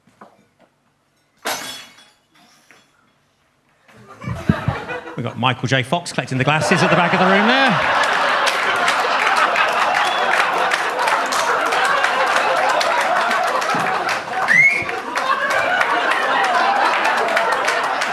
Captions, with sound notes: (glass shatters) (audience laughs) We've got Michael J Fox collecting the glasses at the back of the room there. (audience laughs) (audience claps) (audience member whistles)